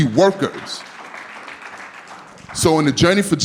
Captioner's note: audience clapping